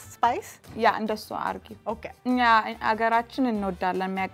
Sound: speaking Amharic

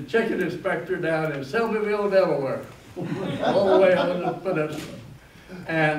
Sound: laughter

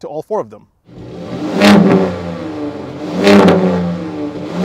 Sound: exhaust roaring

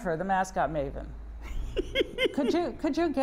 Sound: laughs

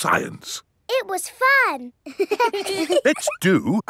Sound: children laughing

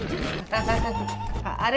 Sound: laughs

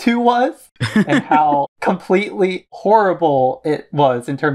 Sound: laughs

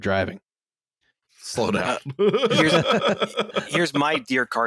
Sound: laughter

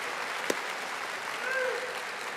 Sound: audience applauding

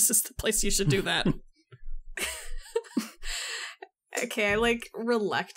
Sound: laugh

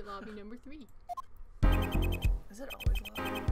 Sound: none

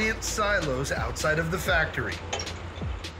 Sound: clanging

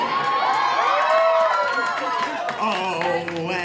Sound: applause

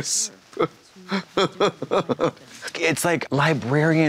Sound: Trixie chortles

